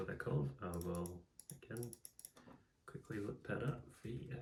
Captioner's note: clicking and typing in the background